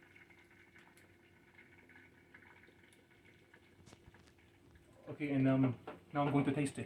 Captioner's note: sprinkling